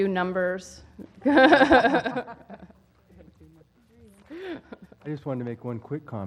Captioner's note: laugh